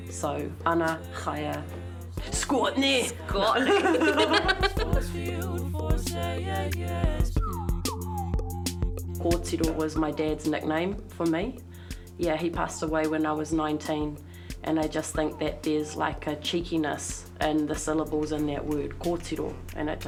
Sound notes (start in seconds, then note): 3.5 both chuckling; 7.2 whistling